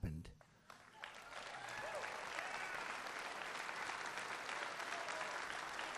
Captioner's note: applause